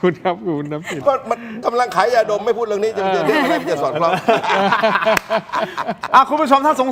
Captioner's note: laughter; laughter